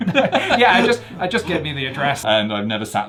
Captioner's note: both laugh